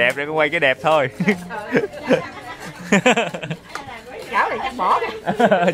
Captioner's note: laughter